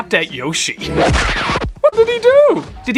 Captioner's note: kick and record scratch